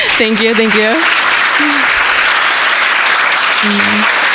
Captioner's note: crowd applauding